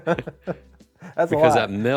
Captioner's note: laughs